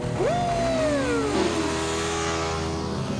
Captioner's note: <i> engine revving</i>